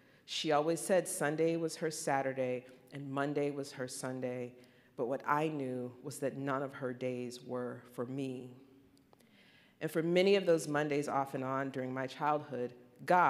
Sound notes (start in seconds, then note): none